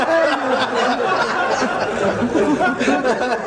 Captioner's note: laughter